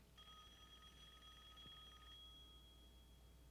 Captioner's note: phone ringing